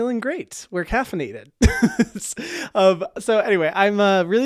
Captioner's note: laughs